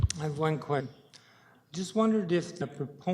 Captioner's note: audio drop